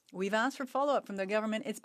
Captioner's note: speaking French